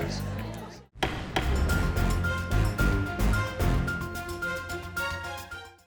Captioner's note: gavel thudding; suspenseful music